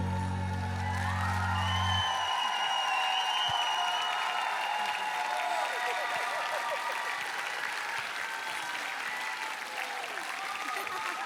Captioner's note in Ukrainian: оплески